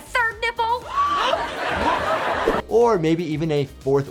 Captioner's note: gasps, audience laughs